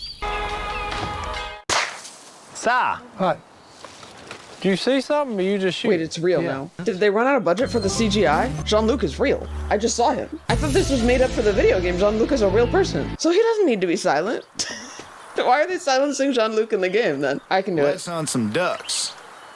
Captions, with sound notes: [gunshot] - Si! - What? - Do you see something or you just shooting? - Wait, it's real now. Did they run out of budget for the CGI? John Luke is real. I just saw him. I thought this was made up for the video game. John Luke is a real person. So he doesn't need to be silent. [laughs] Why are they silencing John Luke in the game then? I can do it. - Let's hunt some ducks.